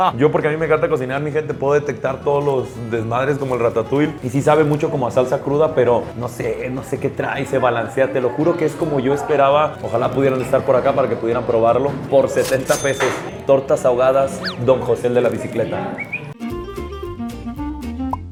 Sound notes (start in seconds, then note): 15.9 Torta ahogada whistle